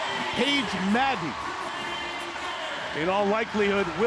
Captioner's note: cheering sound